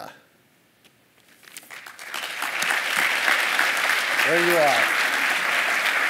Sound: applause

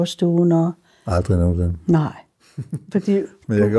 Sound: laughs

